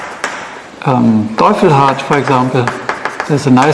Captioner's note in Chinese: 喃喃自语